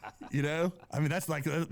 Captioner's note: laughing